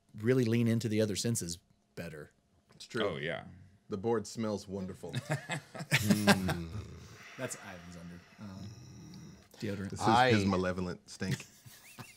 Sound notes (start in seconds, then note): 5.1 group chuckling